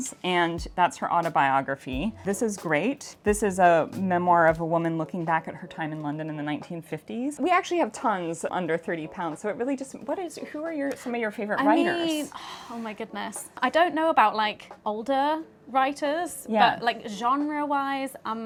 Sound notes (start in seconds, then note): 12.5 sighs